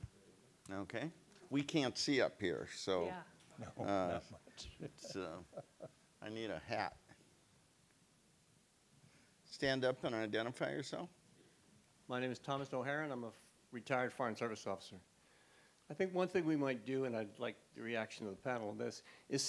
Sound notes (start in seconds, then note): 3.4 laughs